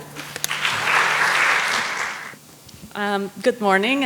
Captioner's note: applause